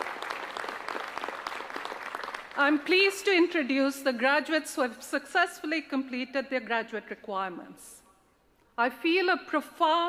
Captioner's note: applause